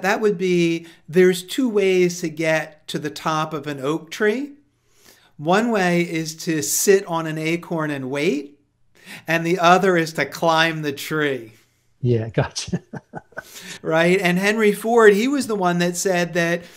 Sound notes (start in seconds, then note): 12.4 laughs